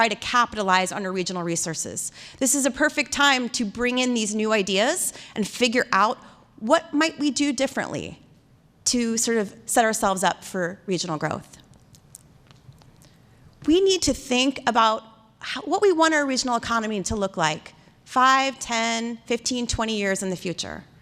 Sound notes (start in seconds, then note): none